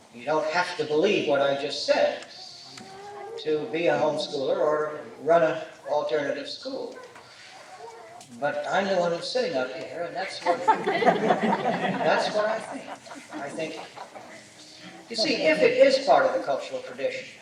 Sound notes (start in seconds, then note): 10.3 laughter